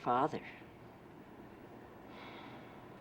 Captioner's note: sighs